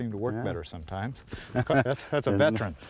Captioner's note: laughter